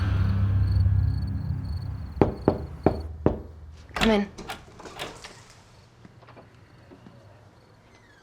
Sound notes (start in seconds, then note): 0.0 crickets chirping; 2.2 hand knocking